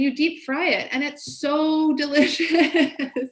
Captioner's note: laughs